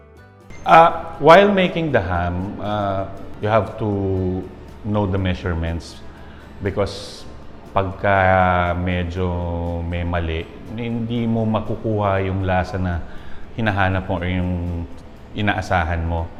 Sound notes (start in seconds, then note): none